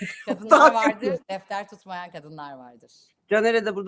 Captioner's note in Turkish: kahkaha